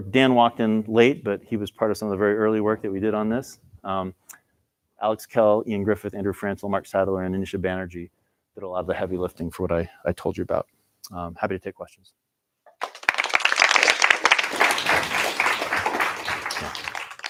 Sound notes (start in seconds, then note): 12.7 applause